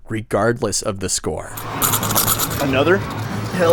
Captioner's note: shakes tokens